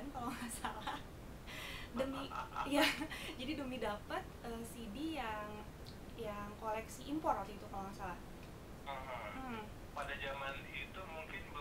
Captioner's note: laughing